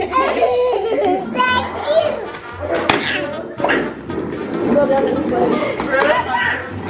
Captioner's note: cheerful music; babbles